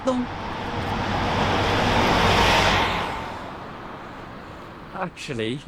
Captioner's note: woman speaking in foreign language